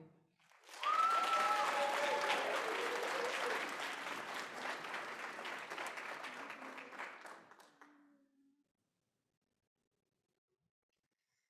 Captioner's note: applause